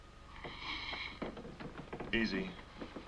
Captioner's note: Vern inhales